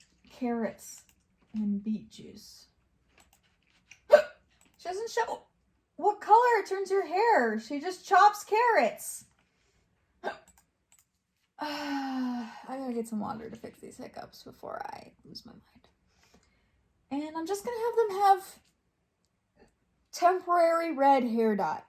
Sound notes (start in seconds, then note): 4.0 hiccups; 10.2 hiccups; 11.6 sighs